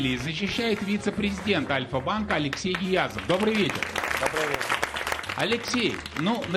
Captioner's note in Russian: аплодисменты